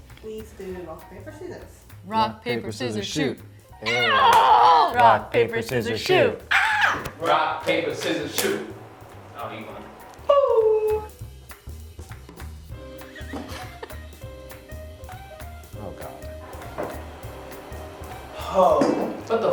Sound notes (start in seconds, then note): 3.8 groans; 6.5 squeals; 11.1 lively upbeat music; 13.1 laughing